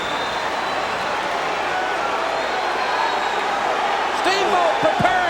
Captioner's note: crowd cheering